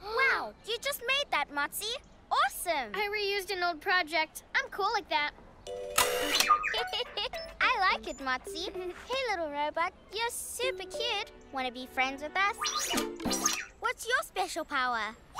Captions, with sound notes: Wow! You just made that, Motsi? Awesome! I reused an old project. I'm cool like that. (Giggles) I like it, Motsi! Hey, Little Robot, you're super cute! Wanna be friends with us? What's your special power?